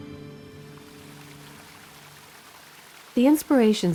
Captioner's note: water gurgling